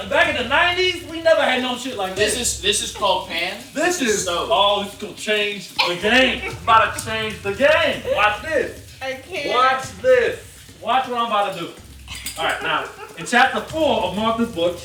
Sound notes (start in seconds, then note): 5.7 laughing